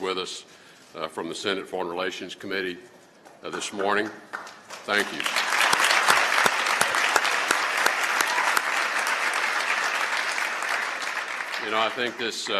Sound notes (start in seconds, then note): 9.7 applause